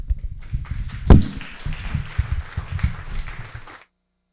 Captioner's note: applause